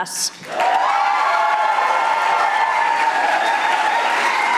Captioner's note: audience applauding